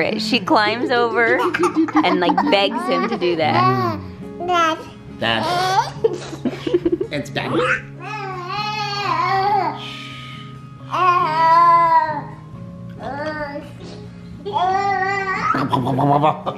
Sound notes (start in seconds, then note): 8.1 pretend-snoring; 12.0 babbling